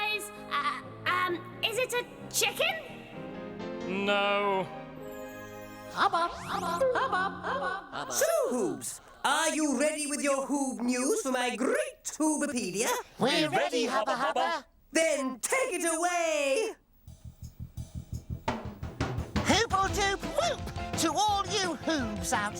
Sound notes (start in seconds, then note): 5.9 echoing